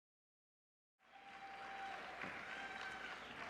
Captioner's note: applause